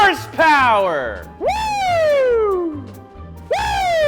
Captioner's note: yells